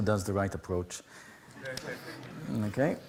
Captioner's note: laughter